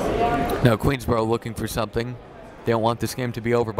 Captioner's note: none